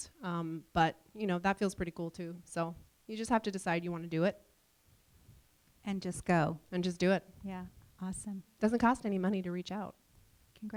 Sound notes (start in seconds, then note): none